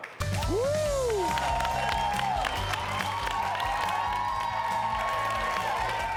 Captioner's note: audience claps and cheers